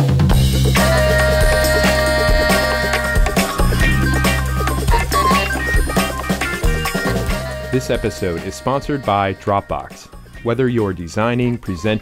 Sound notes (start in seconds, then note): 0.1 upbeat music; 7.6 voiceover